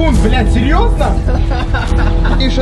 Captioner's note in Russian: Смеются